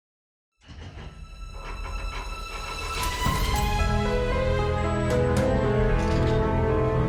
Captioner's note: vault rattling; bright music